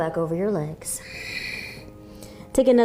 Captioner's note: exhaling